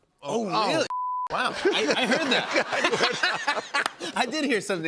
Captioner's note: laughter